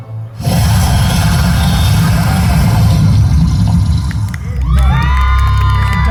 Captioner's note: dragon growls